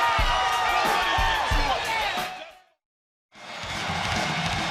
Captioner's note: crowd chatter